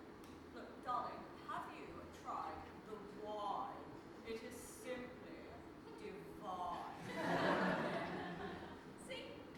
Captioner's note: audience laughs